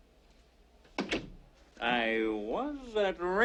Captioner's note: door clicks